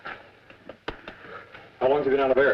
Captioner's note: hand slapping